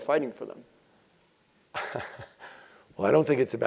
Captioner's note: laugh